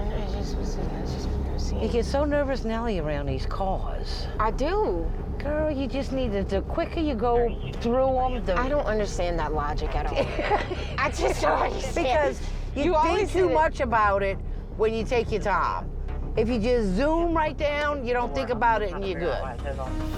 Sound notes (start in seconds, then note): 9.7 laughs